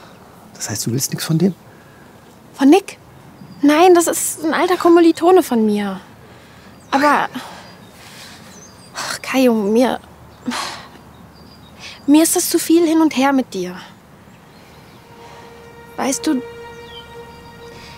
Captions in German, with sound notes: Das heißt, du willst nichts von dem? - Von Nick? Nein, das ist ein alter Kommilitone von mir. Aber ... Ach, Kajo, mir ... (Seufzen) Mir ist das zu viel Hin und Her mit dir. Weißt du ...